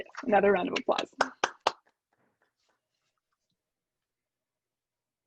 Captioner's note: clapping